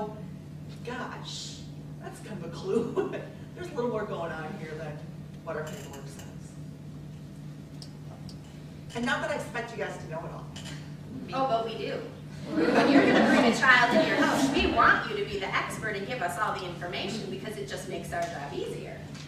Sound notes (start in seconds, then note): 12.4 laughter